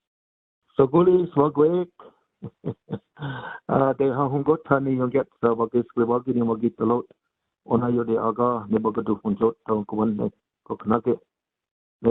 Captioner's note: speaking in native language